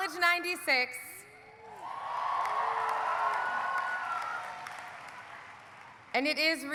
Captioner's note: audience cheering; audience applauding